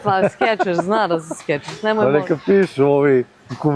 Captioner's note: laughs